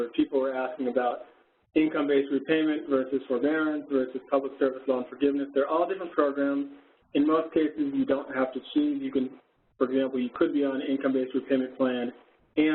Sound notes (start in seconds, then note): none